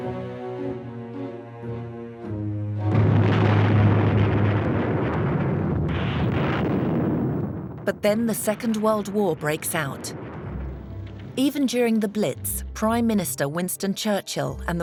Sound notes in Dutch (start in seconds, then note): 3.3 kanonnen vuren